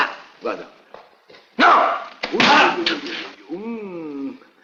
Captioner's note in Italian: sbatte contro la porta